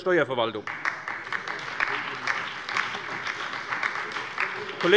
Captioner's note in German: Beifall bei der SPD